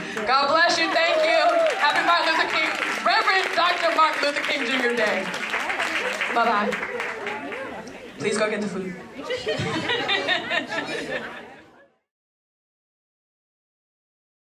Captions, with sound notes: God bless you, thank you. >> [APPLAUSE] >> Happy Reverend Dr. Martin Luther King Jr Day. Bye bye. Please go get the food. [LAUGH]